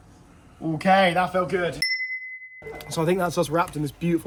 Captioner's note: bell dings